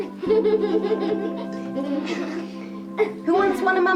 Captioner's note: laughing